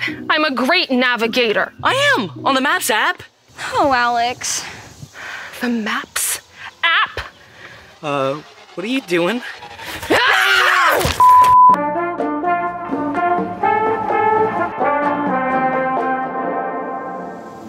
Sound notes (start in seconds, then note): 9.9 screaming; 11.2 upbeat music